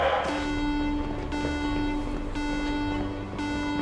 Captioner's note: alarm beeps